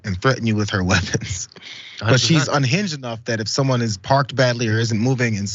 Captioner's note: laugh